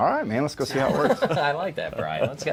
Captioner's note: laughing